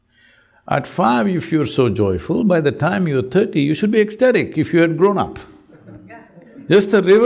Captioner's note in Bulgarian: Смях